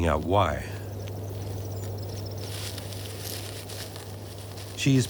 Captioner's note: branches rustling